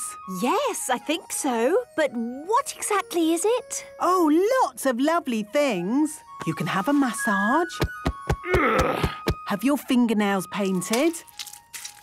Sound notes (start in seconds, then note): 7.8 thumping; 8.4 moaning